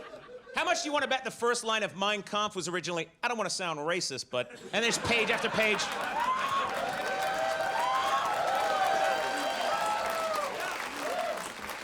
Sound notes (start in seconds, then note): 4.8 audience cheers; 7.6 audience applauds